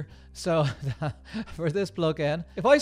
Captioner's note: laughing